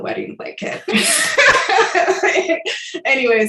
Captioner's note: laughs